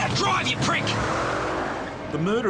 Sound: car engine revving

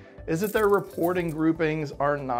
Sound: coins jingling

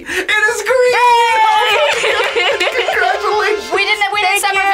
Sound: laughs

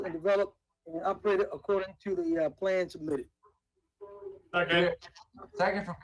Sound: audio distortion

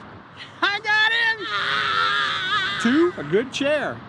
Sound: hollers in triumph

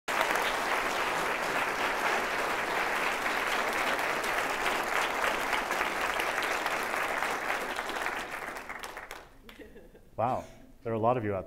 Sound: applause

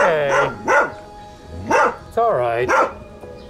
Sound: barks

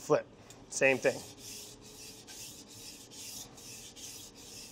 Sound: knife scraping

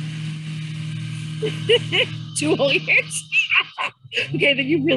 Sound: laughing

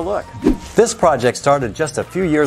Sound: note swooshes

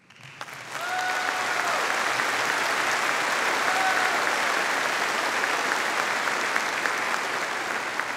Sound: audience applauding

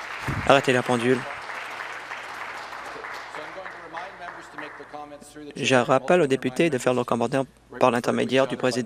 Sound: applause

